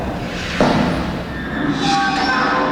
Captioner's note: footsteps; sounds of metal doors opening and closing